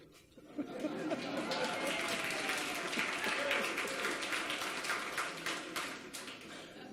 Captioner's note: audience laughs and applauds; laughs